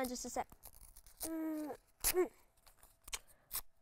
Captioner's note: paper tears